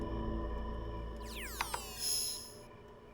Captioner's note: beeping